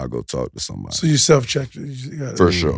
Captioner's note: Maverick speaks faintly